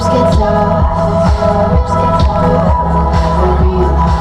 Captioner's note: faint siren sounds